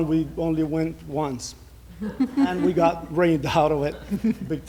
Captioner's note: laughter